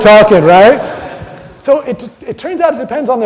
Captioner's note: audience laughter